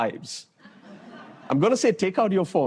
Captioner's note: laughter